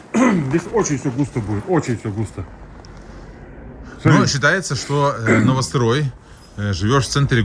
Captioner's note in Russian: откашливается